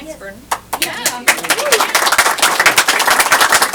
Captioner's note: applause